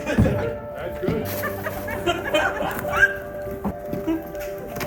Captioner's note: laughter